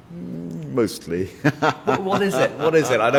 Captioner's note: laughs